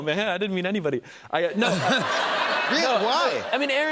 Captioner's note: laughter